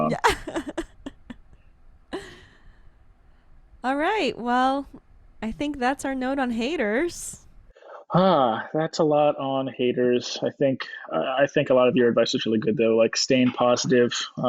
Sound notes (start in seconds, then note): 0.0 laughs; 7.8 sighs